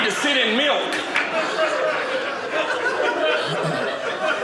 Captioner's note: audience laughing